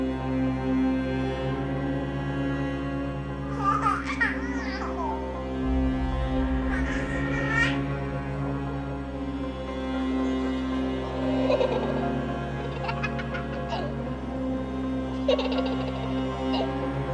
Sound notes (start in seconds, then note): 3.4 baby giggling; 11.1 toddler giggling